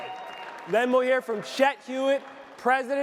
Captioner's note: audience cheering